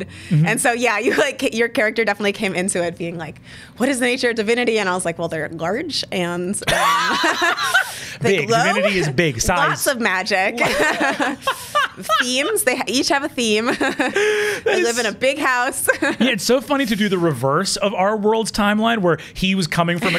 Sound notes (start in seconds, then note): 6.6 both laugh; 10.8 laughs; 13.6 laughs; 20.0 laughs